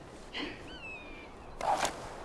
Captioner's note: laughs